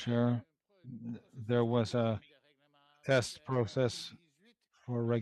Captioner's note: speaking French